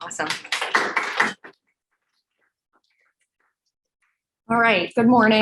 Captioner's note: audience applauding